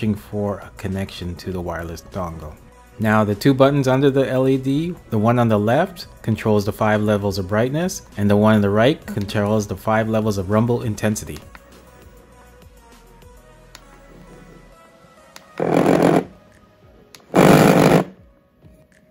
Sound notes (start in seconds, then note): 12.4 button clicks; 15.6 game pad vibrating